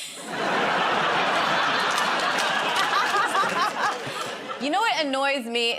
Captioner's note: laughter